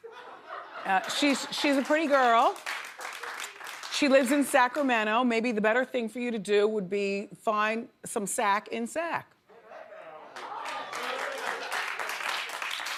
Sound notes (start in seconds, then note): 0.0 audience laughs; 2.9 audience applauds; 10.3 audience applauds